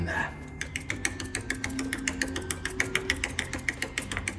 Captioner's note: paint tapping